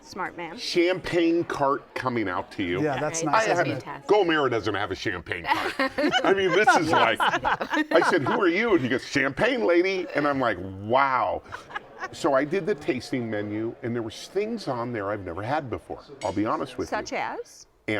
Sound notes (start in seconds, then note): 5.4 laughter